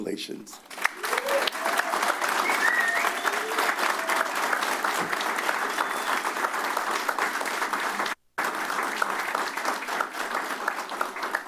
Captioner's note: applause; cheers